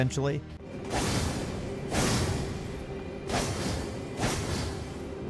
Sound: swinging sword

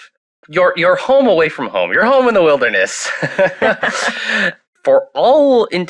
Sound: laughs

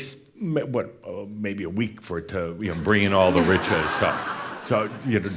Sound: laughter

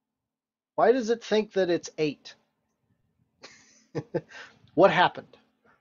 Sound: laughs

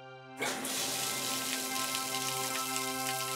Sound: water splatters; gentle instrumental music

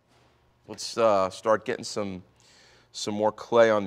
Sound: voiceover

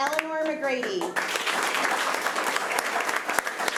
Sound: applause

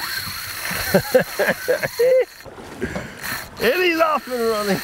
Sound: laughs

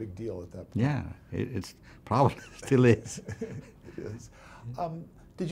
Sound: laughs

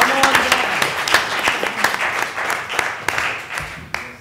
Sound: applause

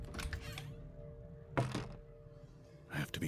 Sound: door Opens, Closes

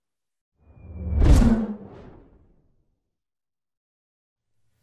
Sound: air whooshes

